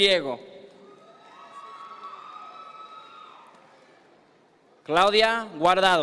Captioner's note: audience members cheer